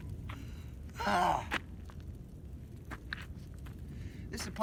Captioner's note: groans